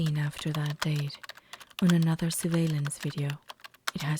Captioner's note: keyboard Typing Sounds